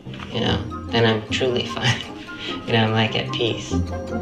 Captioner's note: laughs